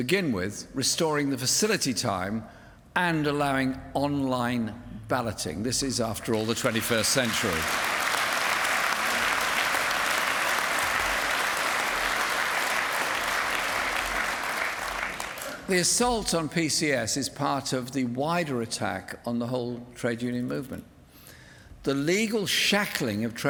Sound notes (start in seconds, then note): 6.2 applause